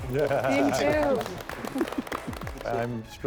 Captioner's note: applause